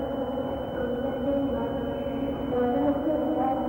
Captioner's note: humming